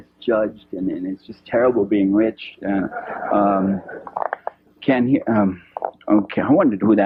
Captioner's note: laughter